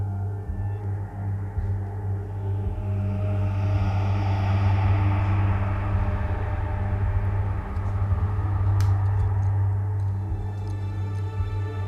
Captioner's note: whisper